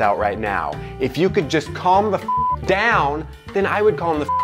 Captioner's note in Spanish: beep